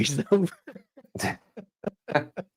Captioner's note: laughing